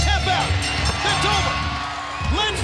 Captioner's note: bell ringing